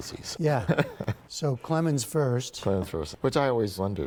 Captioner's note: laughter